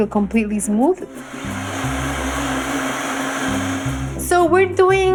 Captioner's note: whirring